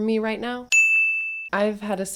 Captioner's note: ding!